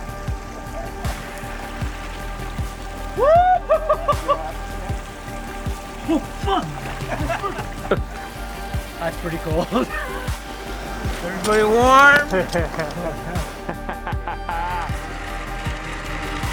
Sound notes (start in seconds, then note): 2.6 shrieking with cold; 14.7 laughing